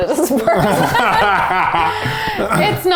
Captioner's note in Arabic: يضحك بصوت عال